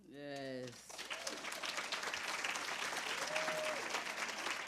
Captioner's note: applause